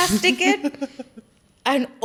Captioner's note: laughs